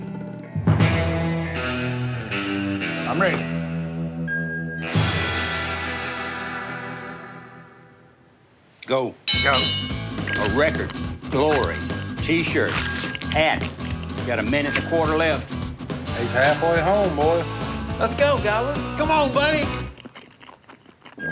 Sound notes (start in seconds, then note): 9.7 munching sounds; 11.0 bell rings